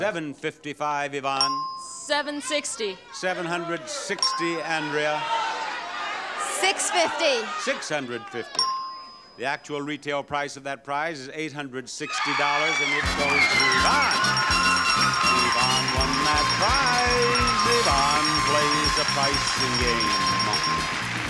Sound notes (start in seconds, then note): 14.1 audience applauds